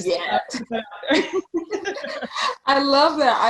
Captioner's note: laughing